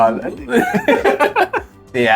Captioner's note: laughs